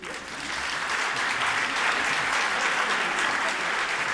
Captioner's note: audience applauding